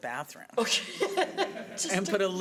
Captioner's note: laughing